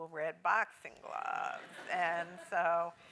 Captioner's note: laugh